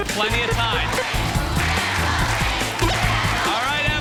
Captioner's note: crowd chanting “ ”